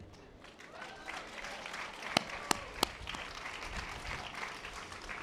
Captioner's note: audience applause